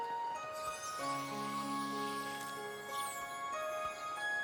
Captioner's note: tinkling